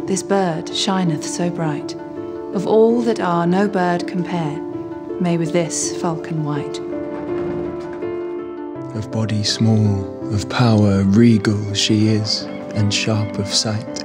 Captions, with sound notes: this bird shineth so bright. Of all that are, no bird compare. May with this Falcon white. (wings flap) - Of body small, of power regal she is and sharp of sight.